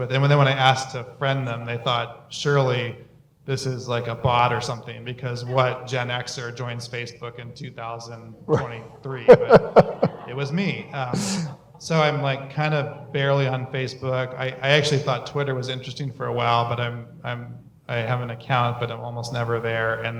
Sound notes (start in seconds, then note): 9.2 laughter